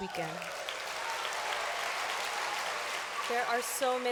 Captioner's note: applause